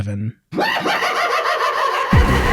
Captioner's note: crazed laughter